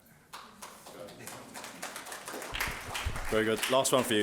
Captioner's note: audience applauding